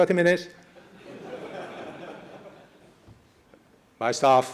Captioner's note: laughing